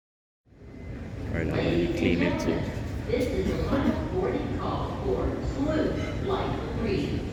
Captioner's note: boarding announcement